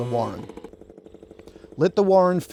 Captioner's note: smoker sputtering